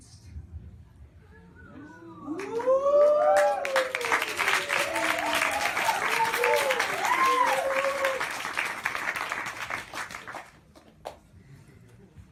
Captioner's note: whistling, cheering, bellowing and applause